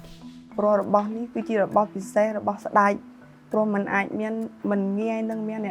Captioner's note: speaking foreign language